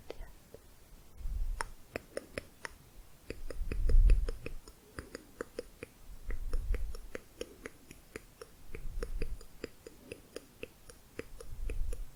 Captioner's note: tongue clicking, back of mouth